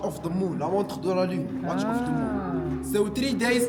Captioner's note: speaking French